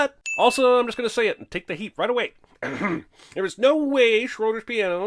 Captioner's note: clears throat